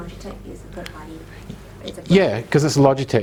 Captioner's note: audience talking